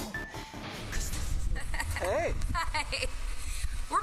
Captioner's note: rindo